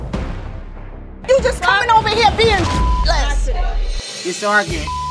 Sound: beep

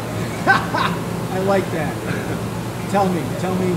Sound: chuckles

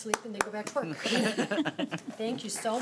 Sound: chuckling

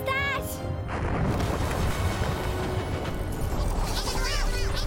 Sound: crashing and rumbling; panicked chatter

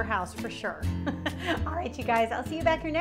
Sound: laughs

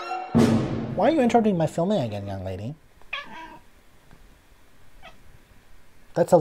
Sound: cat mewing

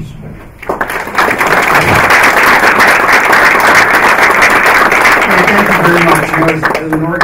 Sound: applause

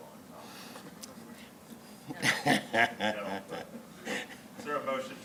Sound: laughs

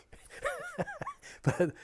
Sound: he laughs

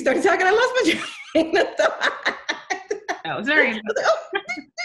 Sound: laughing

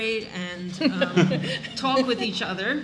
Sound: laughing

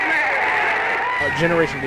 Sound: cheering and applauding

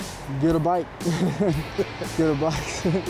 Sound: laughing

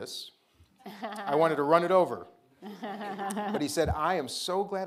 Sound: audience laughing

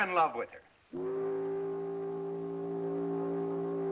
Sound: whistle blows

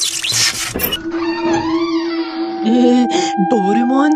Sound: creaking Door Opening

